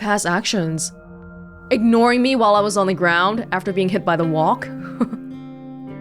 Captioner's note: chuckles